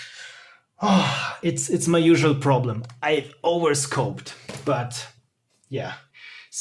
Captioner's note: sigh